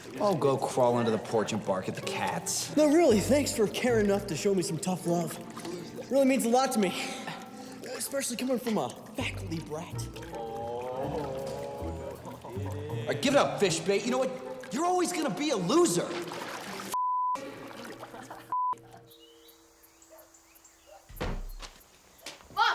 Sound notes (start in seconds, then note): 11.4 boys laugh quietly; 18.3 boy laughs; 19.5 birds chirping